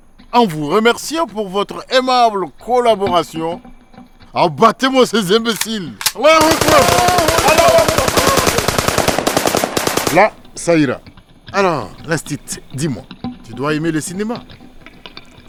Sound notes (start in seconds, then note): 5.5 kalashnikovs firing